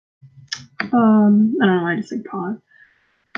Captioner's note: lip smack